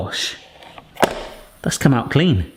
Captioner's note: brownie maker claps closed